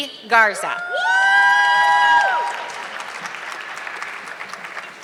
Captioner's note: audience clapping